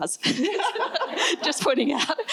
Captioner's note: laughter